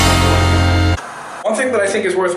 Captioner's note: upbeat horn music; white noise scratching